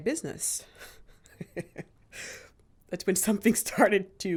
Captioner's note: laughs